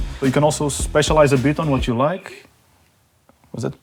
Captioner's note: radio chatter